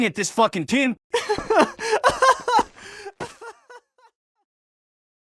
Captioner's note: pathetic crying